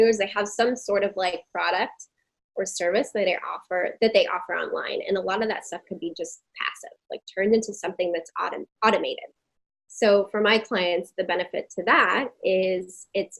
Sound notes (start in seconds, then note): none